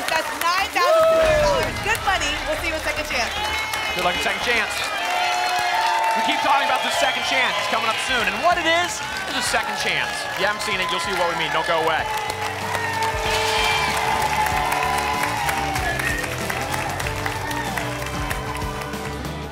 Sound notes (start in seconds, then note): 12.5 applause and cheering